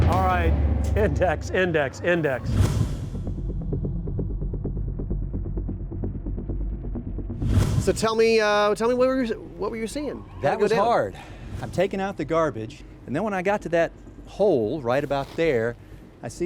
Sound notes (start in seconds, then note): 2.5 suspenseful music; 2.5 whooshing; 11.2 whooshing